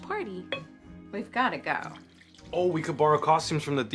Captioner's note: wine pouring